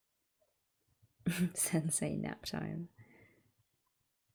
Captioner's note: laughs